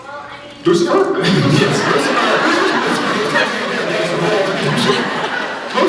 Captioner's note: laughs